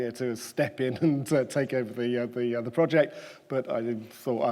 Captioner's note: chuckles